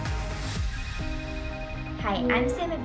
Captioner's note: phone rings